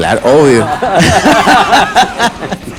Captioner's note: laughs